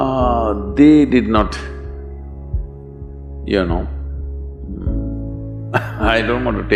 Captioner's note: laughs